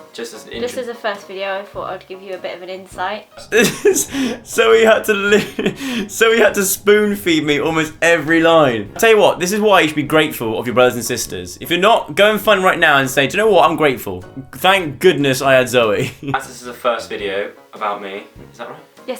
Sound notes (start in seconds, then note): 3.7 laughs